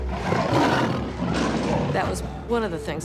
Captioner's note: tiger growling